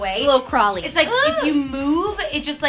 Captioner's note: shrieks